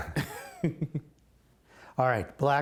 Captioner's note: laughter